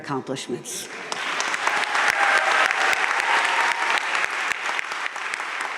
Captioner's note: crowd cheering and applauding